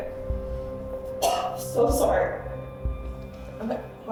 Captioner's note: coughs